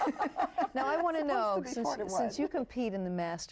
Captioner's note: all laugh